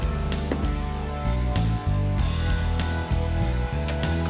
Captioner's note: liquor sloshing; bottle thuds